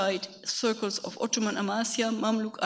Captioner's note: speaks a foreign language